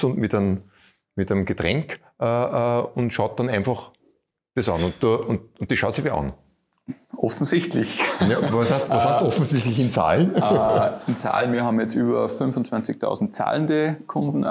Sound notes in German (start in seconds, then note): 7.8 lacht